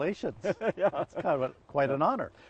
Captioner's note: laughs